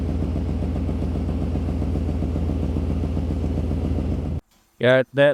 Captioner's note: motor Rumbling